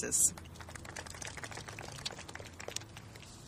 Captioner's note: clapping